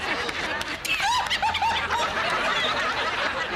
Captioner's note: both laughing